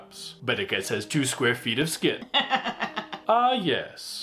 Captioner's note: cackling uproariously